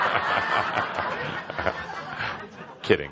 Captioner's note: laughter